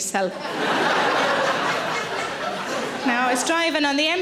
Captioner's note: audience laughing